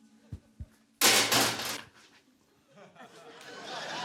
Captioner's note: shovel clangs; laughter